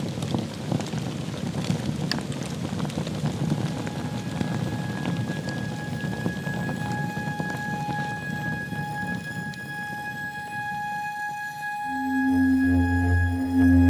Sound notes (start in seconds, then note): 3.6 fire crackling continues; 3.6 gentle music; 10.3 gentle music continues